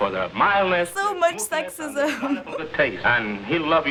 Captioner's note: giggles